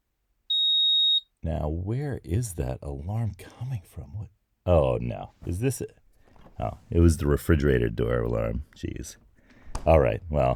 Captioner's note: refrigerator door closes